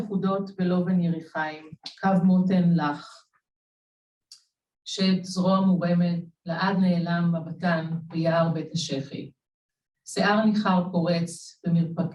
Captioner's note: Hebrew